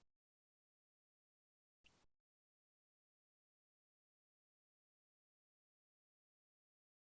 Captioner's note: silence